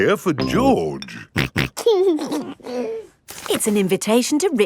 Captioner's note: snorting and giggling